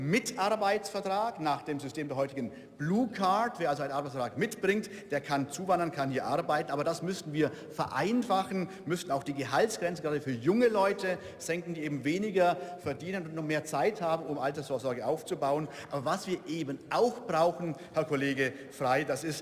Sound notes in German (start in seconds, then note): none